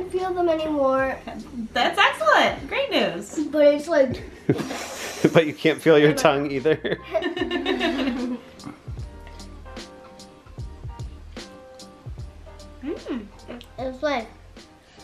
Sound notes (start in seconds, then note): 4.3 blows air; 6.8 laughs